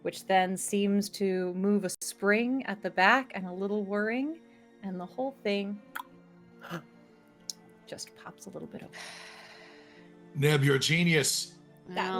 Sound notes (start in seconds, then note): 5.9 clicks tongue; 6.9 gasps